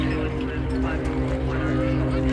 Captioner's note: indistinct chattering